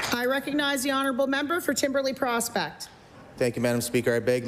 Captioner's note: applause